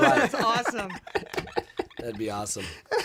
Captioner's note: laughter